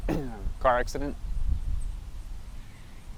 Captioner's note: clears throat